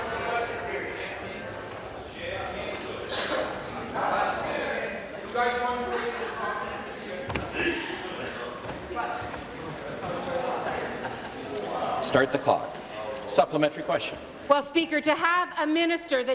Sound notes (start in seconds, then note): 3.0 conversation din